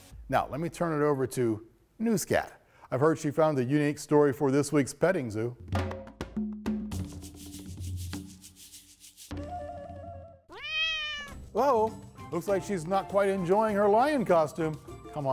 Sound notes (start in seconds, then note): 10.5 cat softly meows